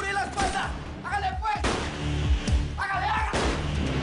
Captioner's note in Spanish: Disparo; Disparos